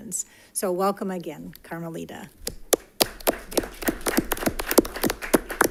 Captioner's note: attendees applaud